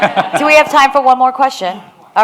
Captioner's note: audience laughs